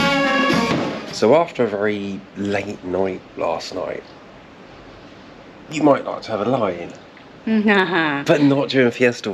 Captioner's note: laughter